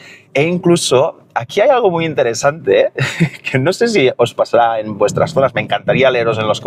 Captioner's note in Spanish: risas